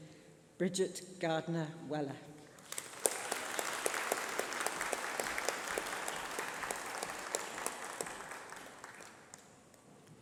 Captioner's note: applause